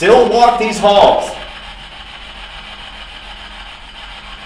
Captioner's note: static buzzing